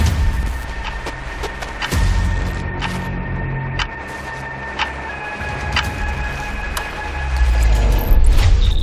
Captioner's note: ticking